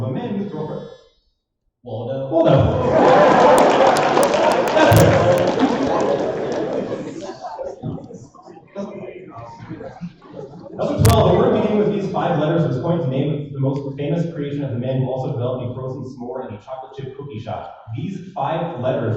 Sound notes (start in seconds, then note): 2.8 applause